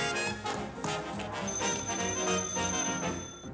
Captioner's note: phone rings